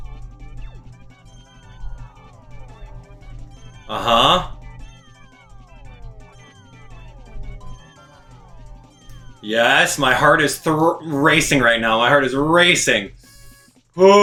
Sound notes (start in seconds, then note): 0.0 gaming sounds; 0.0 instrumental music; 1.9 gaming sounds; 1.9 instrumental music; 4.7 gaming sounds; 4.7 instrumental music